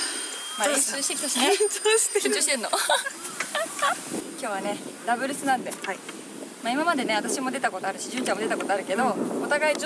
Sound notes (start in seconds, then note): 1.3 laughs